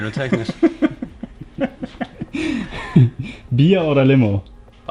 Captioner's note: laughs